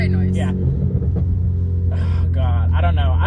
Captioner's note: exhaust popping